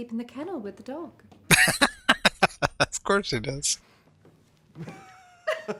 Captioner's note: laughing